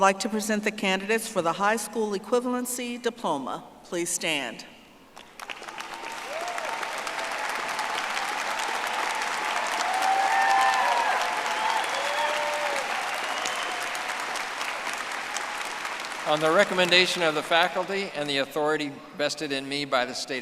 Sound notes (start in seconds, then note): 8.7 audience applauding